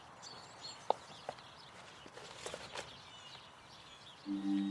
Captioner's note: paper shuffling; mysterious music